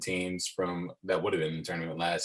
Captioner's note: murmurs